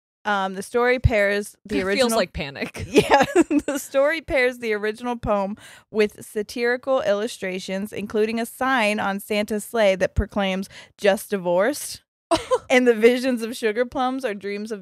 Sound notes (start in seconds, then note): 2.6 laughs